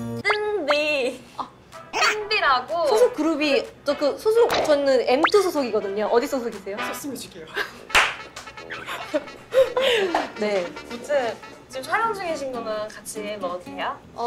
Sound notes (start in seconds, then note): 7.9 clap; 8.6 giggle